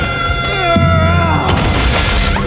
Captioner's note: grunting